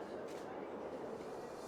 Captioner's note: wind